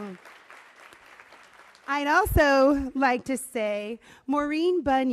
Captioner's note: applause